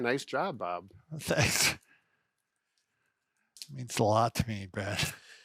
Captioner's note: chuckles